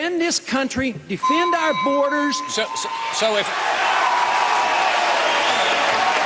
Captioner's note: bell sounds; cheers and applause